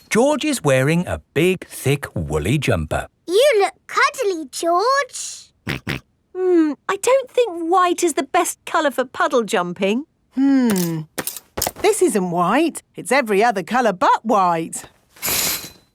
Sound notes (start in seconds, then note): 5.7 snorts